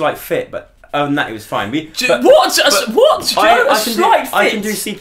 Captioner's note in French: indignation